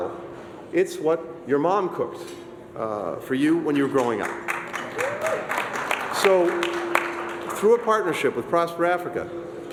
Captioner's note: applause